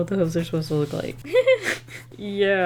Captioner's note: giggles